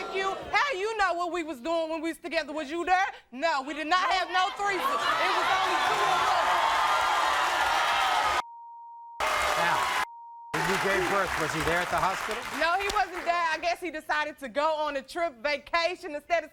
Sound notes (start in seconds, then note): 6.3 audience cheering